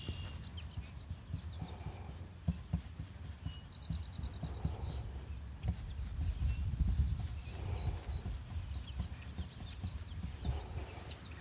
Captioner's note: birds chirping